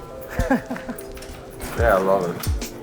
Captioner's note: laughs